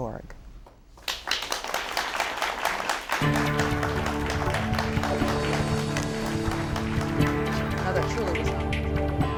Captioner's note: upbeat music; applause